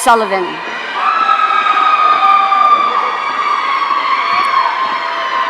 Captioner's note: audience cheering